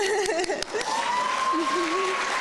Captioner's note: applause